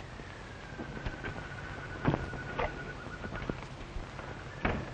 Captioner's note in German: Tür öffnet sich